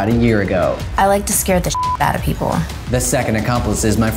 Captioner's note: beep